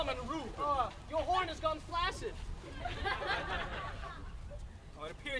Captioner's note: laughter